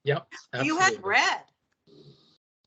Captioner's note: laughing